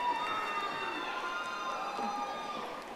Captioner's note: audience applauding